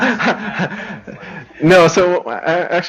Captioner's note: laughs